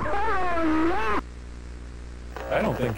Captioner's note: static buzzes